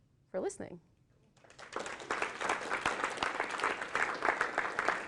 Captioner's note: applause